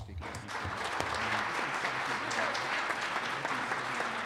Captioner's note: audience applauds